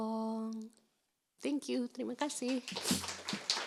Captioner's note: speaking in foreign language; group clapping